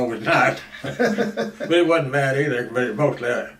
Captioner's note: both laugh